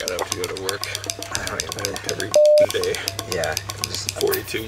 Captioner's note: beep